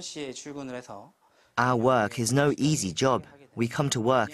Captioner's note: Korean